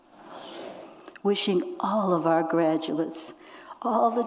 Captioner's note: tearfully